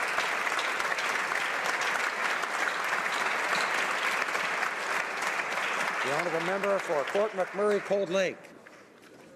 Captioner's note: applause